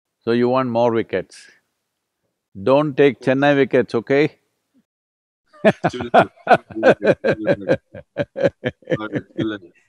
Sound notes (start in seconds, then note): 5.6 laughs